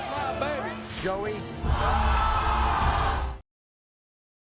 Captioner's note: audience yells